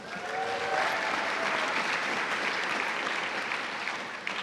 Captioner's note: cheers and applause